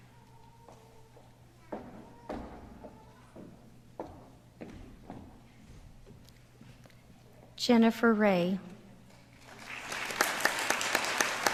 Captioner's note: applause